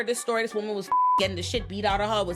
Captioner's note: beep